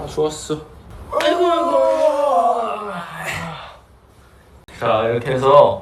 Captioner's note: both groaning while sitting down exactly the same way